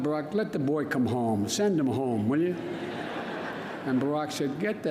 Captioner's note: laughter